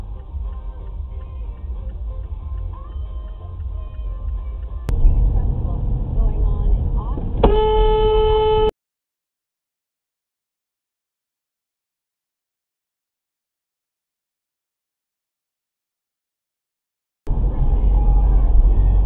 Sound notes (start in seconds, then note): 7.4 honk